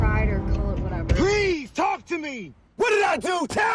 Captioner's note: shouts